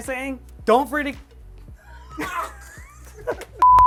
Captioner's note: laughter